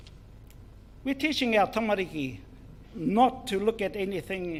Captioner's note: speaks in foreign language